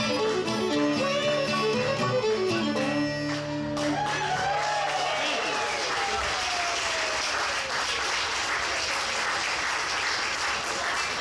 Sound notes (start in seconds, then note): 3.7 audience applauds; 3.8 audience cheers